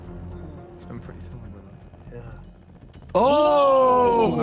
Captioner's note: panel whispers; Sidemen groan